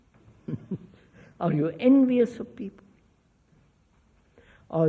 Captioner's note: laughs